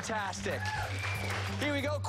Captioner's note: applause